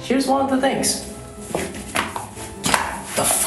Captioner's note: mousemat flaps while being moved